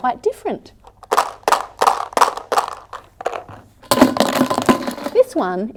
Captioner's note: rattling sounds can be heard